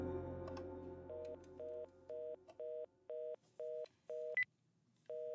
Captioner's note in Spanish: Sonido de línea ocupada